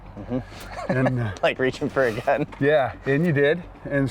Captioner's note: laughs